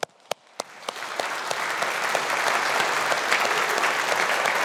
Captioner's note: audience applauding